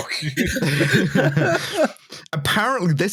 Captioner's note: laughter